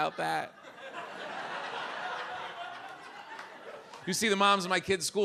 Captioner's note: audience laughs